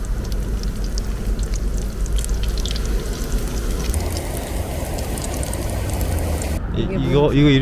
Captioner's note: sizzling